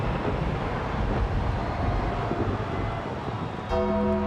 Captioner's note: thunder rumbles; audience cheers; ominous music